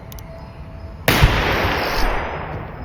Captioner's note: gunshot